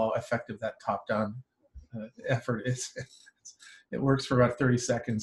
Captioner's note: laughs